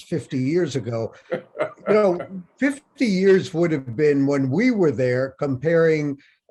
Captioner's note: Bob laughs